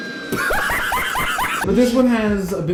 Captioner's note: uncontrollable laughing